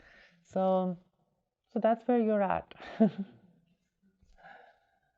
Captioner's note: chuckles